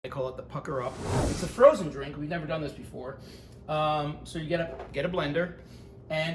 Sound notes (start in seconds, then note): 0.7 air whooshing